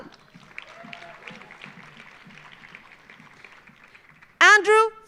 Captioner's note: audience applauding; audience cheering